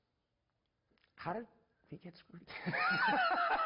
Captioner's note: laughs